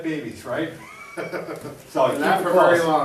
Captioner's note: laughs